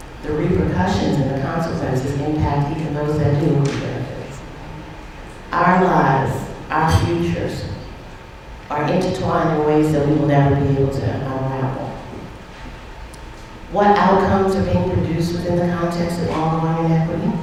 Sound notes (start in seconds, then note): none